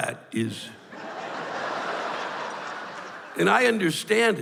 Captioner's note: laughter